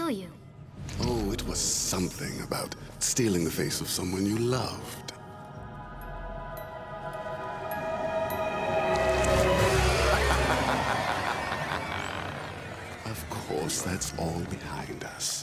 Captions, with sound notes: Oh, it was something about stealing the face of someone you loved. [laughing] Of course, that's all behind us.